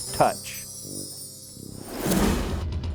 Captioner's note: bells chiming